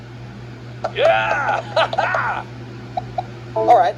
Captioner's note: Martin cheers